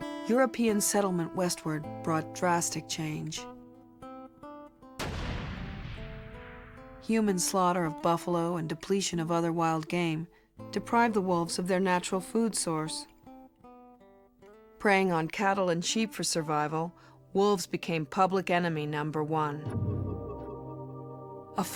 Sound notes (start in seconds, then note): 5.0 gun bangs; 19.6 tense music